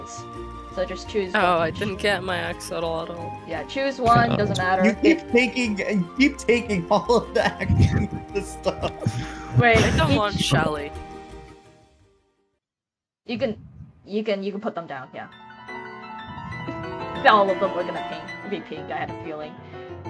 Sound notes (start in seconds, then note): 7.3 chuckles™; 8.8 while laughing